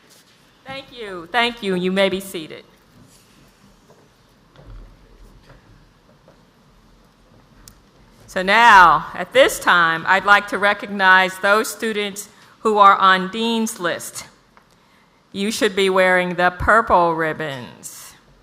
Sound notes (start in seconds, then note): none